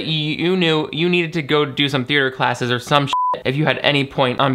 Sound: beep

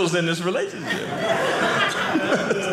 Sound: audience laughing

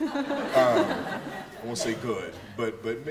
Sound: laughter

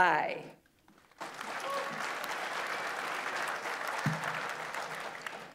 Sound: audience applauds

